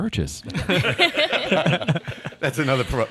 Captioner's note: all laughing